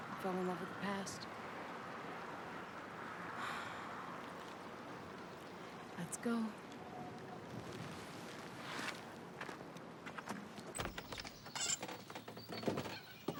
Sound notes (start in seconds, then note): 3.4 sighs